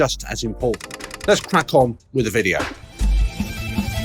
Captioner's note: machine clicking; light music continues